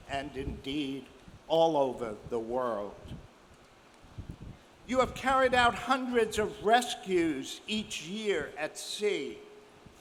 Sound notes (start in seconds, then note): none